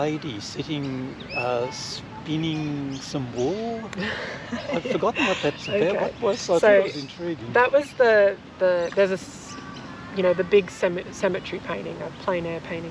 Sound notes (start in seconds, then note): 4.0 laughs